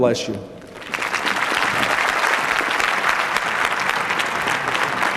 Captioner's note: applause